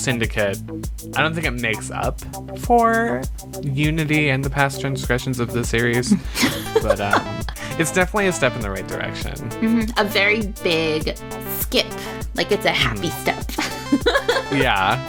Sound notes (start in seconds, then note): 6.0 laughs; 13.4 laughs